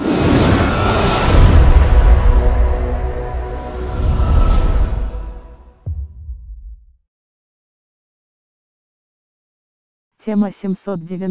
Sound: calmly

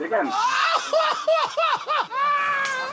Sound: laughter

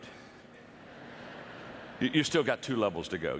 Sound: audience laughter

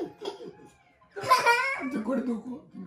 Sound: laughing

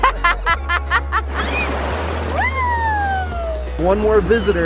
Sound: laughter

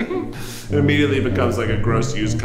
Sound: laughs

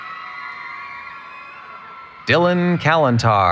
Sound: cheering

